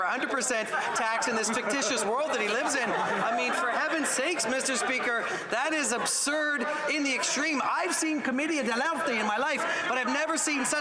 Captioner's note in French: voix de l'interprète